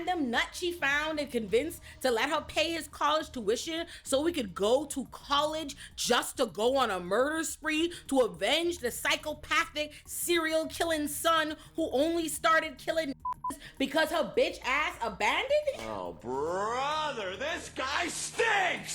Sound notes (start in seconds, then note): 13.2 beep